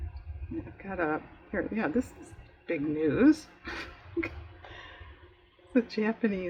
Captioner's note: laughs